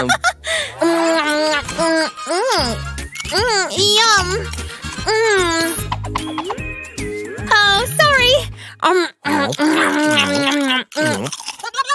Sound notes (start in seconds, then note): 0.0 deep sigh of relief; 0.3 chews noisily; 0.8 laugh; 4.2 sounds of eating, ill-mannered